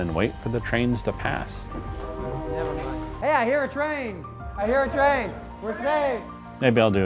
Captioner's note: train horn